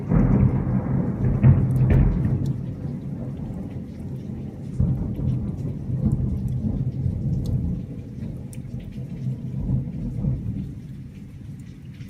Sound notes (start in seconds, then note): 0.1 more loud thunderclaps echo around; 3.3 rumbling in the sky slowly fades away until the end of the video